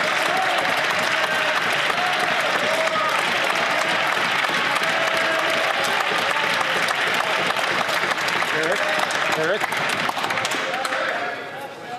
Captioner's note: some Applause